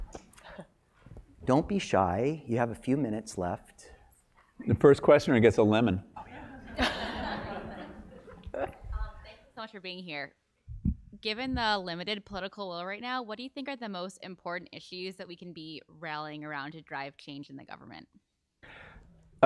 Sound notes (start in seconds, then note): 0.3 laugh; 6.2 laugh